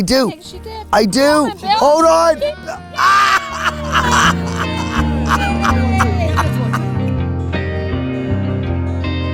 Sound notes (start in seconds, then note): 2.5 laughing